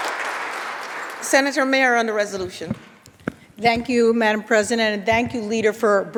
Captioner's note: applause